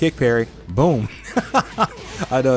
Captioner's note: laughs